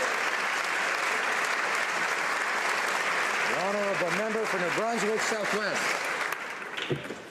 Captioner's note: applause